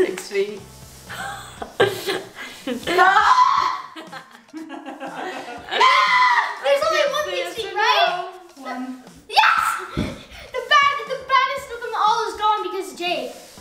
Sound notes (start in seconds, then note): 3.0 screams; 4.4 laughing